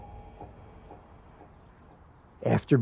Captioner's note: birds chirping